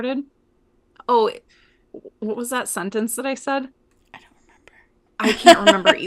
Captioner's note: in a whisper